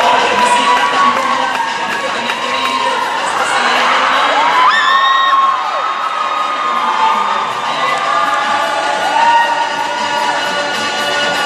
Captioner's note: cheering